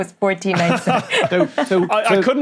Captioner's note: laughs